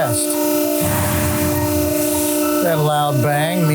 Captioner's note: metal thuds